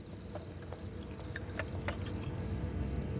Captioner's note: metal jangles